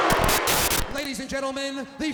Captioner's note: crowd clamoring; graphics hissing; static crackling